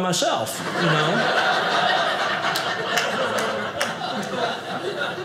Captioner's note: audience laughing